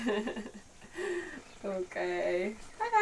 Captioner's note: chuckling